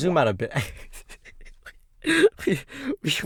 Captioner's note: laughs